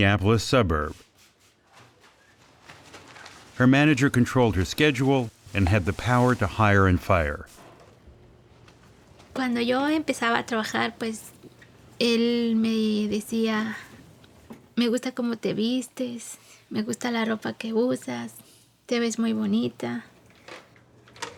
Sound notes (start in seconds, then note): 10.5 speaking Spanish